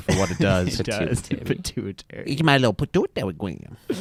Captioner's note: laughs